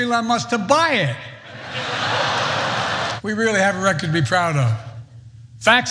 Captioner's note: laugh